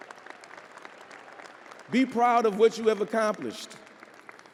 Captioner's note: audience applauding